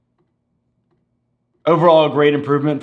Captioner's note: slow, faint clicking